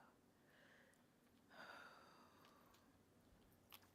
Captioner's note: breathing heavily